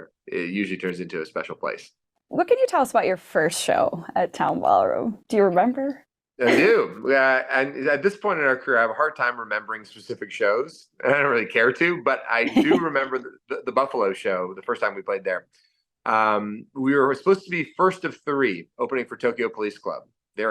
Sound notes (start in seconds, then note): 6.4 laughing